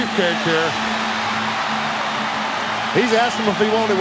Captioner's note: audience cheering